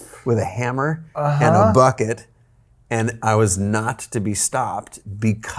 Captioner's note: groaning